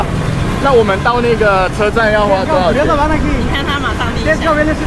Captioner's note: local language